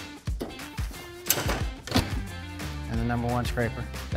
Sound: upbeat music continues; machinery clicks

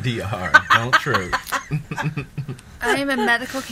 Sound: laughing

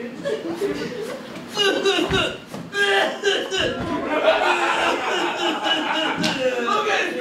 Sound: intense coughing

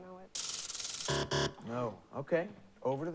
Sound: buzzer

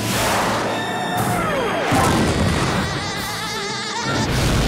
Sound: laughing

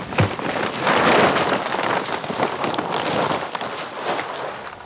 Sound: plastic rustling

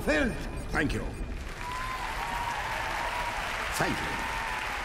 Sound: crowd applauds

